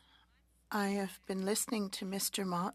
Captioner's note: speaking French